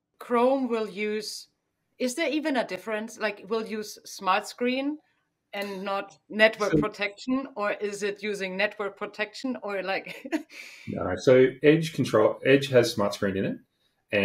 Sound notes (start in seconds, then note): 10.3 laughs